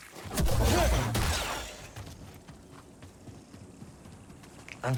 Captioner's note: gunshot